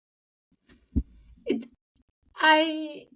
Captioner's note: host laughs